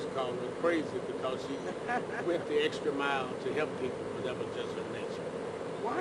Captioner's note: laughter